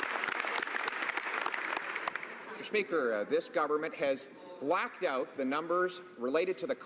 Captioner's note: some Applause